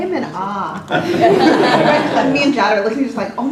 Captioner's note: laugh